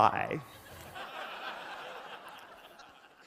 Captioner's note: laughter